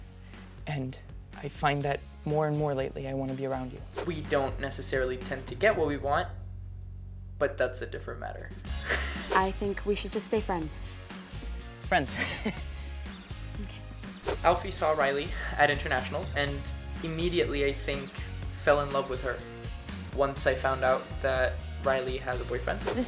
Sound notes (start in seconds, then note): 8.8 laughs; 12.1 laughs awkwardly